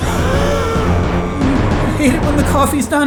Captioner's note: gasps